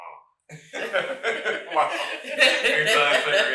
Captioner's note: all laughing; laughing